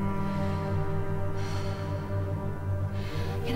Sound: emma exhales

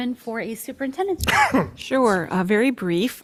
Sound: man coughs

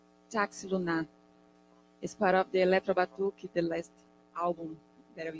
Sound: speaking in Portuguese

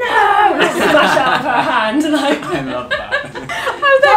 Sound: laughs

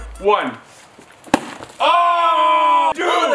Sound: thud

